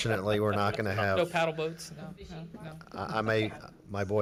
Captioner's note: speaking faintly